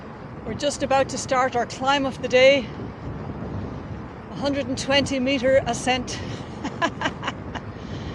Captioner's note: laughter